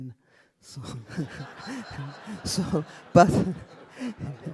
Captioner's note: audience laughing